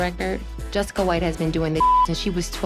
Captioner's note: beep